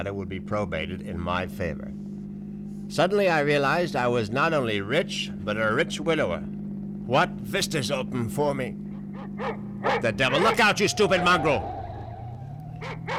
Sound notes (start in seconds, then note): 9.8 dog barking; 11.6 tires screech